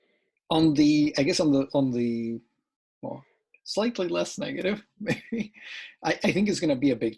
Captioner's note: laughs